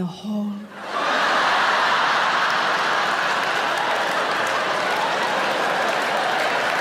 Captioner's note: audience laughing; audience clapping